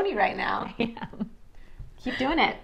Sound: laughs

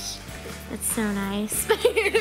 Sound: laughs

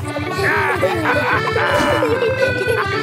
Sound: all laughing

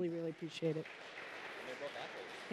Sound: applause

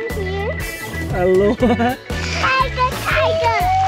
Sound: laughs

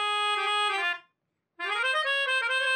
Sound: none

